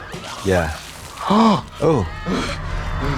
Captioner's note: vomit spurting; Trixie gasps